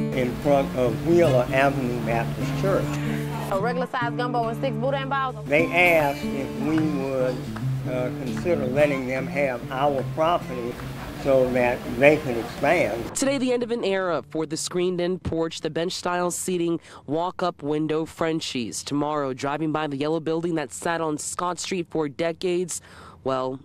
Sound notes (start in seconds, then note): 12.7 news cast voiceover